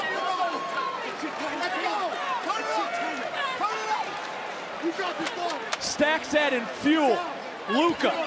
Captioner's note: yelling